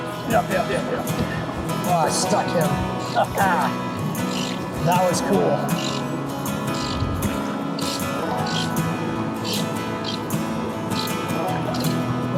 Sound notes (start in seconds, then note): 3.2 laughing